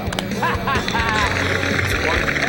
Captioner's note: laughs